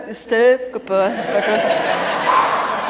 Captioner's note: laughter